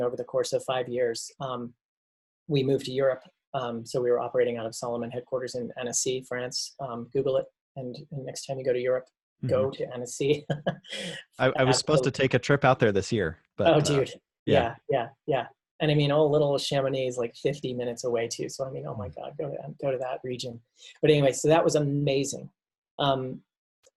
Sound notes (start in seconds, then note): 10.1 laughs